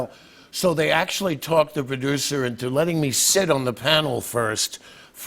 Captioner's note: none